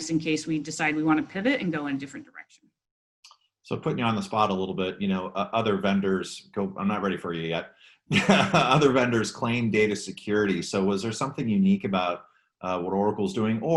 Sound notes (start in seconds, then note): 8.1 laughs